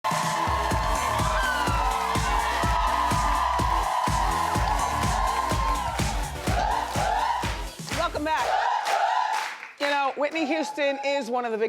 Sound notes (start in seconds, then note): 0.2 audience cheering; 4.2 upbeat music